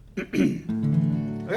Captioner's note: clears throat; guitar notes ring